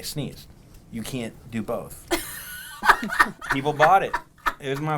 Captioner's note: laughs